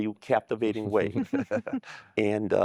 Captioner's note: laughter